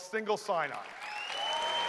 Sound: cheers and applause

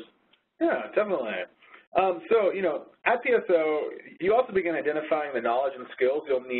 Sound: voiceover

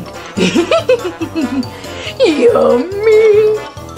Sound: Scooby laughs

